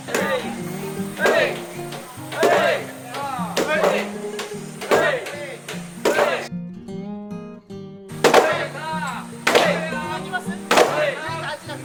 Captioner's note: men's voices